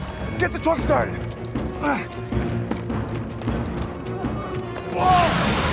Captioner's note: dramatic music; Tector gasps